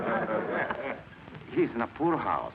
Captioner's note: class laughs